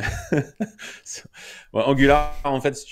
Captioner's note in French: Rire